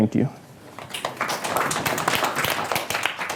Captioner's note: applause